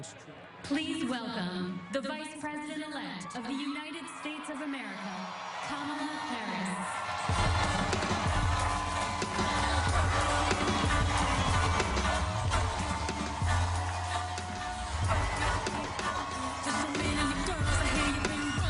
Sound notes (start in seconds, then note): 10.7 cheers and applause